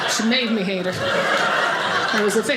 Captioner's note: audience laughing